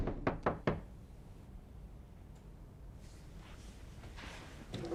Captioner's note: knocking